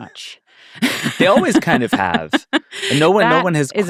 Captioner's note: laughing